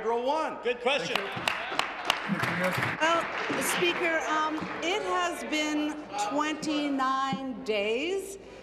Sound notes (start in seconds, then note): 5.7 applause